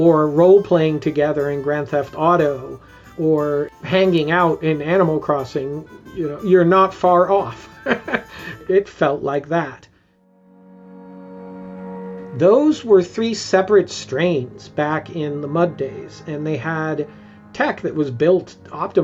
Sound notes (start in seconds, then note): 7.5 chuckles; 10.4 gentle music